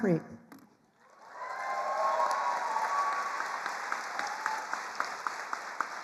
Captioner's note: attendees cheering and applauding